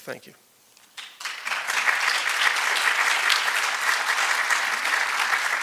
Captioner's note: applause